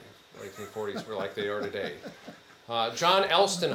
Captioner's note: attendee chuckling